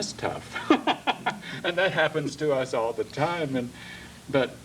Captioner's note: laughs